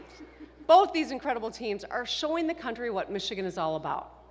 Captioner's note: laughter